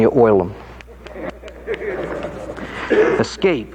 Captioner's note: audience laughing